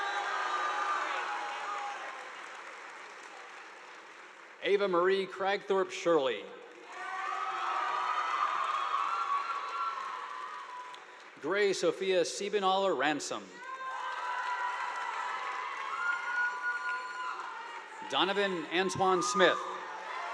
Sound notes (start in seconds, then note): 0.0 audience applauding; 6.7 audience applauding; 6.8 students cheering; 13.6 audience applauding